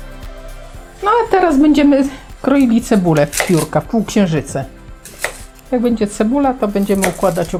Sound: slices

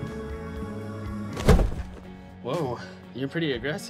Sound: loud thud

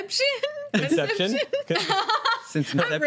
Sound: laughter

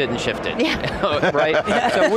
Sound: laughing

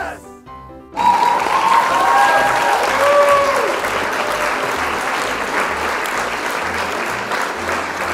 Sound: applause for encouragement

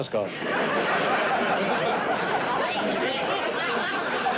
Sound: laughter

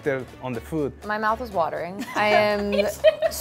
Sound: laughs

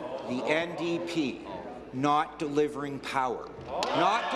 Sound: applause

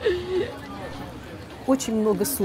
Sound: laugh

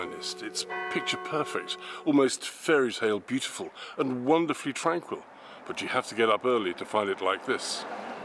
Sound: church bells

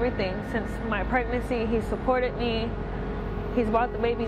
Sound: none

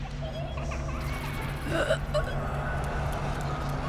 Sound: little girl giggling; gasping

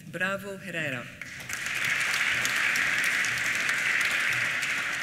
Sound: applause

